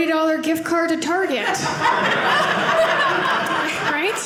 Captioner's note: audience laughing